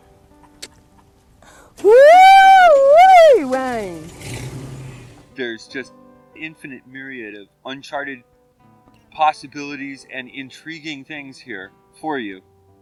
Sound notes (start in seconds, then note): 1.8 cheering